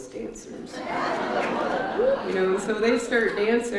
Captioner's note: audience laughs